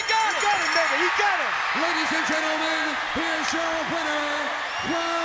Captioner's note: bell ringing; crowd cheering